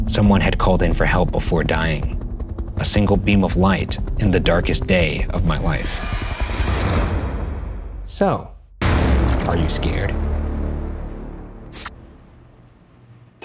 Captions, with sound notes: Someone had called in for help before dying. A single beam of light in the darkest day of my life. (tense music) (static hissing) So. Are you scared? (tense music)